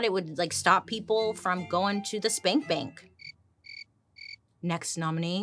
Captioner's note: crickets chirping